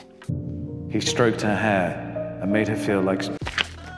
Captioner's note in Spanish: Con eco